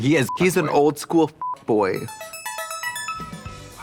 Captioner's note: beep; musical flourish